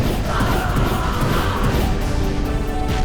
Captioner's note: gol screams